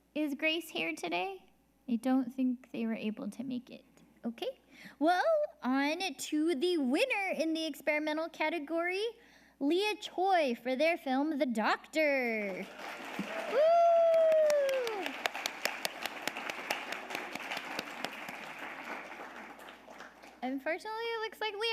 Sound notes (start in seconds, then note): 12.5 audience applauding